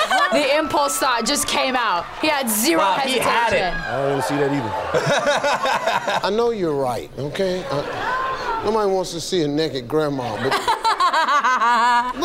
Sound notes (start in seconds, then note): 4.9 laughs; 10.3 laughs